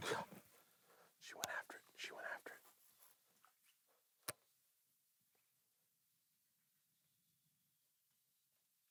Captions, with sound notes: Oh! [whispering] She went after it. She went after it.